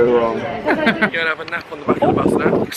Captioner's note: laughing